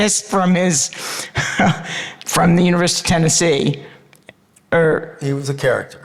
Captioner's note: laughs